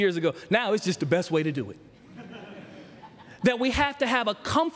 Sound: laughter

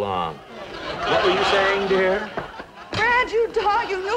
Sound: audience laughing

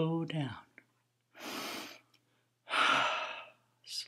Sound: breathes deeply

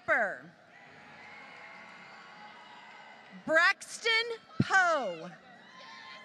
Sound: applause

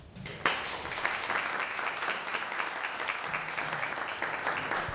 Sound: group applauding

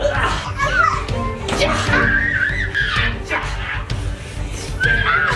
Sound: children playing

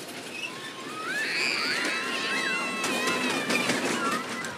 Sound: kids scream with delight

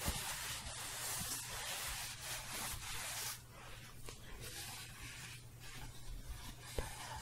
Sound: shuffling

